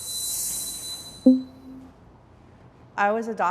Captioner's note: soft intense music; text box pops